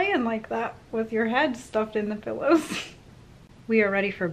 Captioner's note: laughs